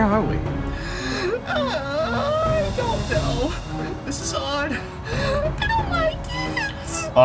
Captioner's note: groans